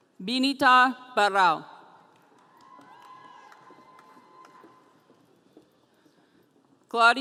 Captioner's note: audience cheering